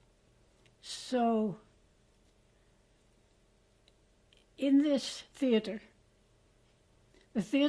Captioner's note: pauses for 3 seconds